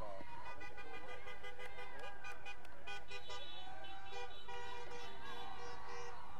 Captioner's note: people cheering; vehicles honking